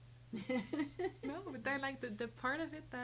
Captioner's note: laughing